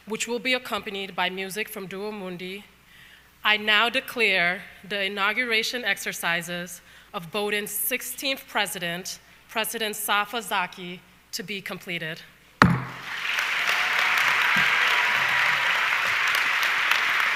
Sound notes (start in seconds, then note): 12.6 audience clapping